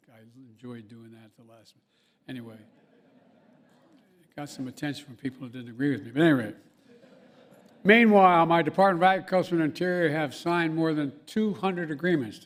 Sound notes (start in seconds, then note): 2.6 laughter; 6.7 laughter